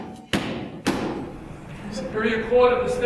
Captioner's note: gavel banging